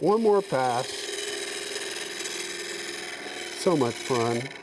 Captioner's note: scraping metal